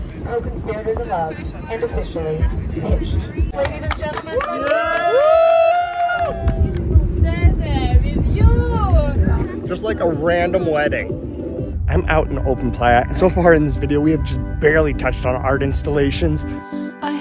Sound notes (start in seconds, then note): 4.1 cheering